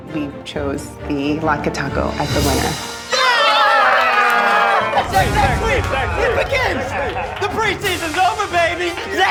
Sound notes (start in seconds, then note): 3.0 all cheering